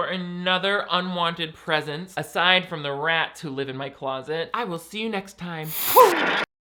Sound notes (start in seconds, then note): 5.7 static buzzing